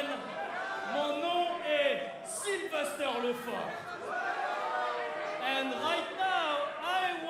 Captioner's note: speaking in foreign language